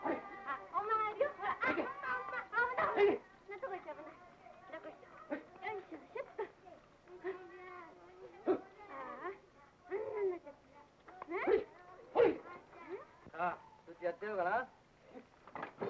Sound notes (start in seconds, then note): 9.0 noise to encourage a horse